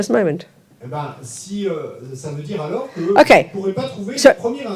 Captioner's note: audience member speaks in French